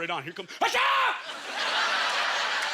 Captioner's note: screams